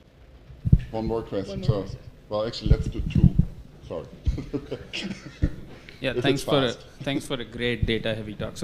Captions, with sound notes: One more question so, but actually let's do two. Sorry, [LAUGH] >> Yeah, thanks for the great data heavy talk.